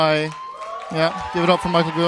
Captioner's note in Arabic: تصفيق